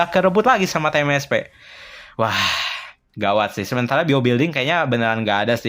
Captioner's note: sighs